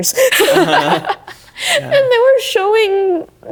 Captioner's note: laughing